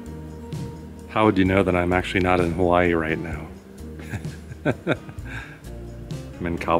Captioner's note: laughs